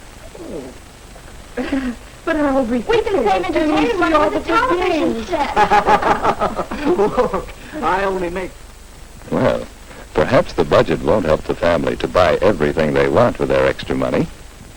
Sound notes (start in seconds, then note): 1.3 sounds of confusion; 5.5 cackling